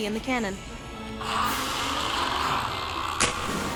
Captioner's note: raspy breathing